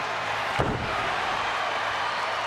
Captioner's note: body thuds; crowd cheers